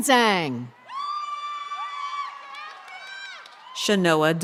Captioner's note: people cheer